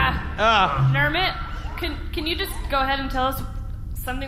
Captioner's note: metallic Bumping Sounds; crew groaning in pain